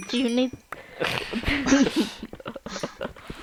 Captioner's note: laughing